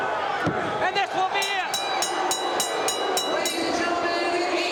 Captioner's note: bell rings